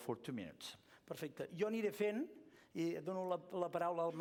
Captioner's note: non-english speech